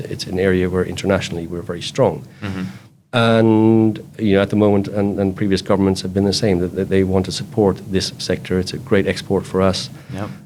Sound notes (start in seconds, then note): none